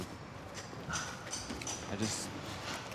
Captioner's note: banging construction noises